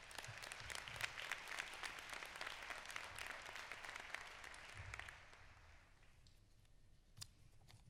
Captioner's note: applause